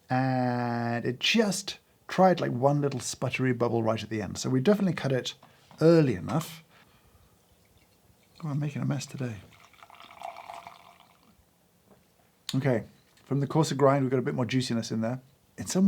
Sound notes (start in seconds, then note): 11.2 coffee pours